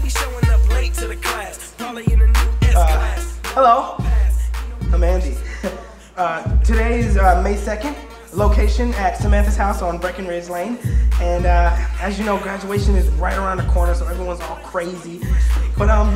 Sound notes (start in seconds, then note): 5.3 chuckles